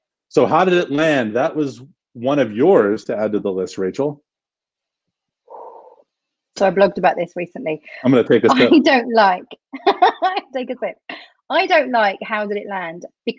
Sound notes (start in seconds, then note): 5.5 exhales deeply; 9.6 laughs